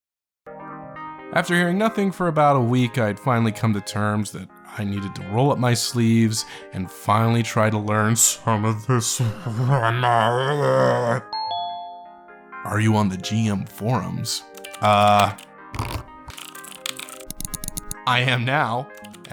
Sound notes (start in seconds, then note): 11.3 message chime; 15.7 furiously typing